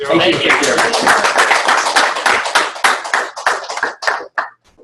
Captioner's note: applause